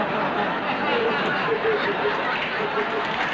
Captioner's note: laughter